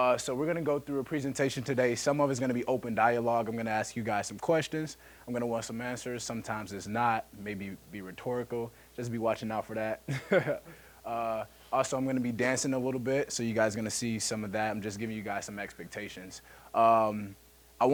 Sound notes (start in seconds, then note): 10.1 laughing